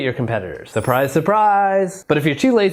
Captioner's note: bells tinkling